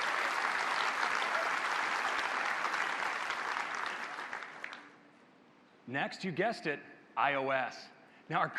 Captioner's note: applause